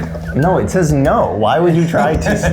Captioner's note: laughs; groaning